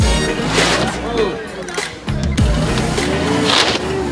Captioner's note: engine revs; plywood crunches